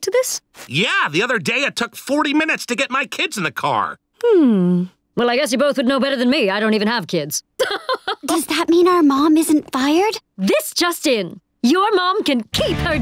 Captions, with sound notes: Yeah, the other day it took 40 minutes to get my kids in the car. Hmm... Well, I guess you both would know better than me. I don't even have kids. [laughing] Does that mean our mom isn't fired? This just in, your mom can keep her job!